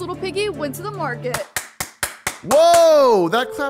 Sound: clapping hands

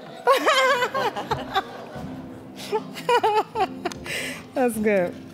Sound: all laughing

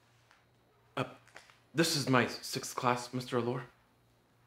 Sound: stammering

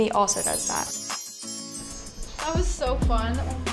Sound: bells chiming

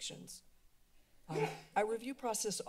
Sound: sneeze

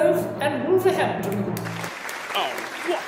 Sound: applause

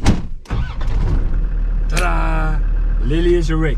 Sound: car door slams; Landrover engine starting

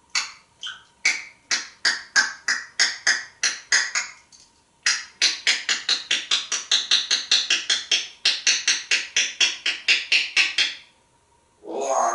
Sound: smacking sounds

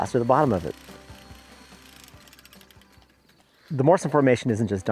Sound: whirring

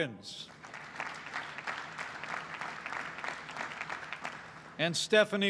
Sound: applause

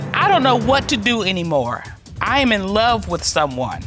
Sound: judge dana reading

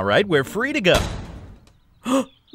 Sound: metals clanking

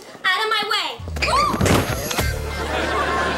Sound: screams

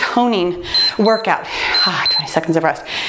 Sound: timer beeps

